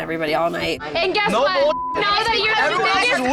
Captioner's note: beep